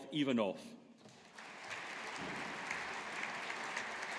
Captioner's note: audience applauding